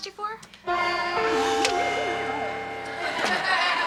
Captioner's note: school bell rings; audience laughs